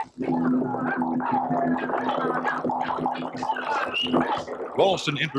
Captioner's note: birds chirping